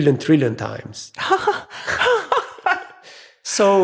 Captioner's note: speakers laughing